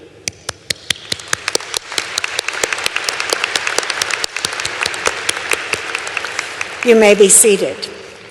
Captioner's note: applause